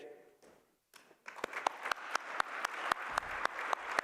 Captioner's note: applause